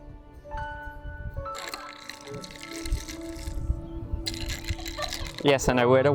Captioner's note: stirring coffee